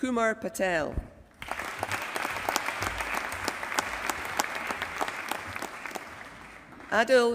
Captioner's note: applause